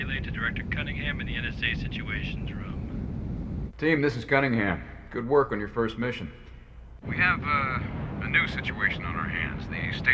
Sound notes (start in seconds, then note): none